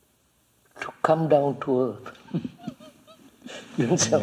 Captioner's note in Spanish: Risas